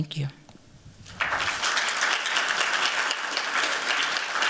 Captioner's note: audience applauding